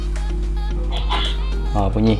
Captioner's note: sneeze